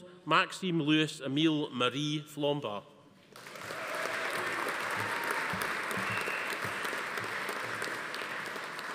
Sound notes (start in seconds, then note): 3.3 audience applauding; 3.4 attendees cheering